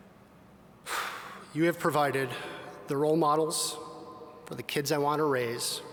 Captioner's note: sighs